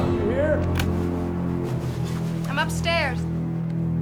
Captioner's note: recorder clicking